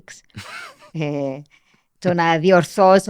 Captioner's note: he laughs